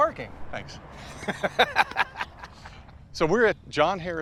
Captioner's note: laughs